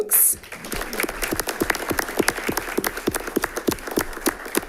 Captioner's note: all clapping